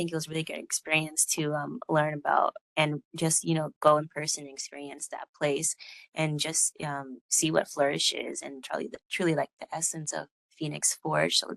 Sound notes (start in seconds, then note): none